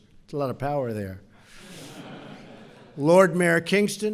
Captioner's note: laughter